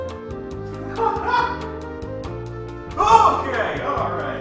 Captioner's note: laughs